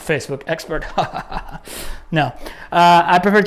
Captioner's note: laughing